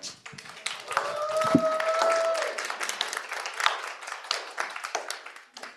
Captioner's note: crowd cheering and applauding